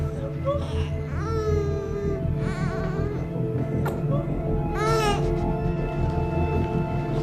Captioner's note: baby crying